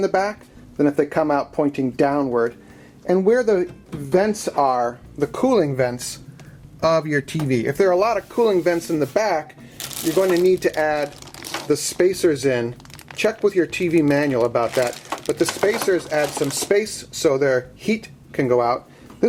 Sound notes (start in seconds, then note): none